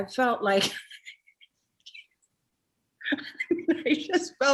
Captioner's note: Jennifer laughs